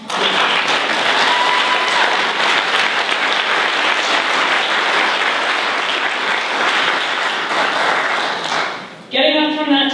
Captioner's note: applause